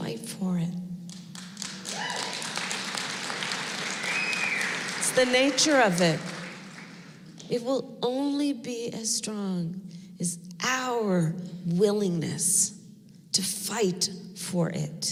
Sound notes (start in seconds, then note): 1.1 applause